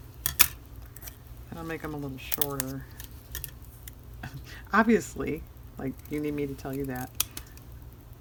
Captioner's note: laughs